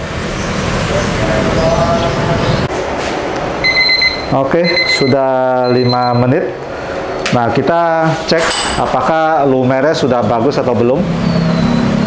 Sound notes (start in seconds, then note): 0.3 motorcycle noise; 0.3 praying sound; 3.6 beeping sound